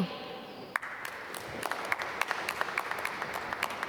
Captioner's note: applause